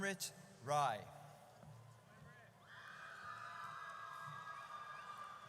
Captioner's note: audience cheers